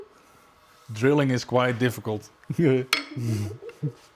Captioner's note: laugh